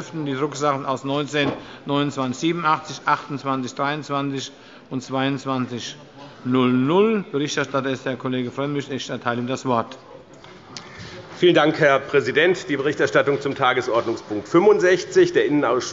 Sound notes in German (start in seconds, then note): none